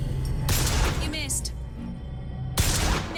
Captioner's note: sparse tense music; guns blasting